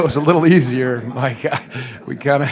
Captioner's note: laughter